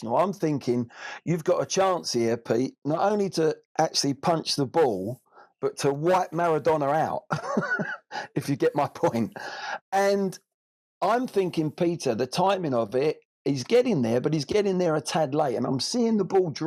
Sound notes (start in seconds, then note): 7.3 laughs